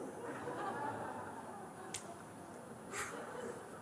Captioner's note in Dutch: gelach